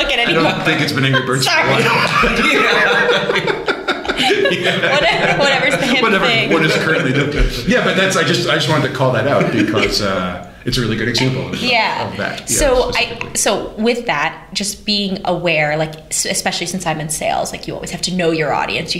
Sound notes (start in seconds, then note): 6.3 laughter